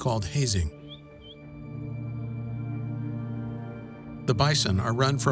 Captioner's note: men whistling